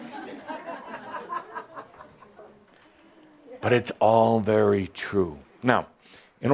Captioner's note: some chuckles